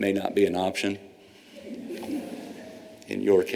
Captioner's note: laughter